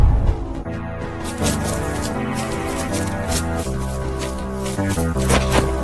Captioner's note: powerful woosh; footsteps; dirt crumbles, staff powers up, fence clatters